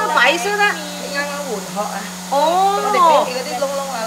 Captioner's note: Cantonese